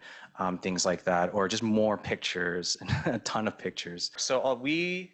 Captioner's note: laughs